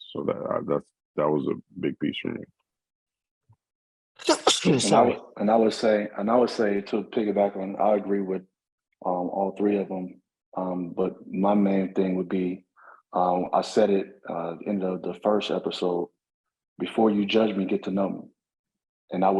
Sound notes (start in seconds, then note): 4.2 sneezes